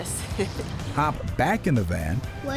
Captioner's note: laughs